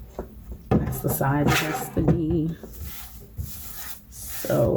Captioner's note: paper sliding across cutter